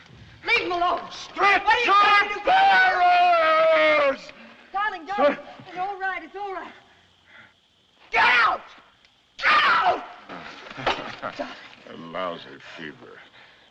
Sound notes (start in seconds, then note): 10.5 chuckles